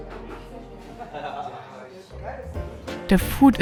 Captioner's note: people laughing